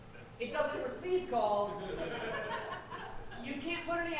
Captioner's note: audience laughing